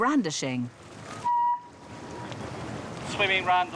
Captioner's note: feedback squeals